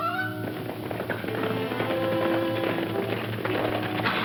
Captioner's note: horse hooves clomping